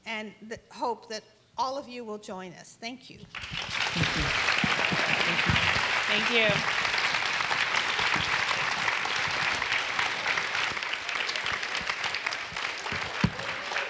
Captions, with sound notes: And hope that all of you will join us. Thank you. (audience applauds) - Thank you.